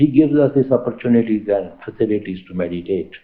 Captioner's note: laughing continues